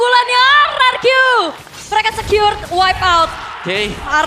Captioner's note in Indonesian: berteriak